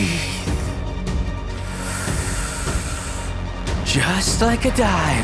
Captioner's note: deep breath